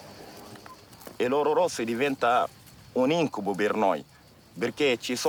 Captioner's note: speaking in foreign language